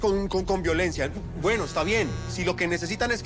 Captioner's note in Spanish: Vibra el celular